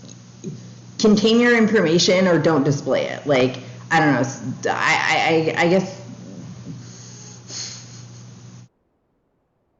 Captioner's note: huffs